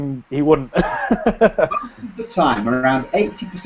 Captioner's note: laughs